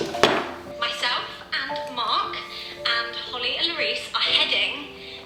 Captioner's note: woman talking on phone